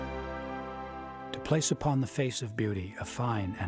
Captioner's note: voiceover